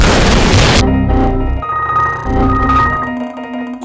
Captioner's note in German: Vielfache Errorgeräusche